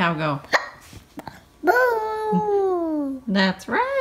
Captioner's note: hiccups